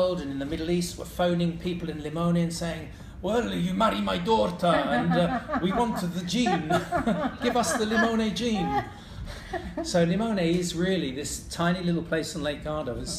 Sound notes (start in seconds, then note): 4.4 laughing